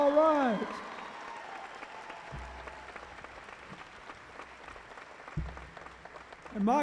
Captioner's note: cheering